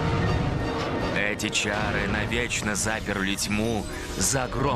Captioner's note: none